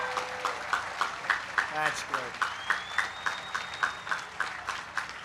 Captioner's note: applause